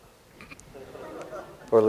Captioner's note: laughter